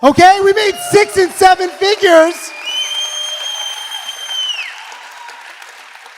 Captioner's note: audience cheering